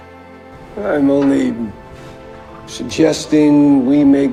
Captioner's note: voiceover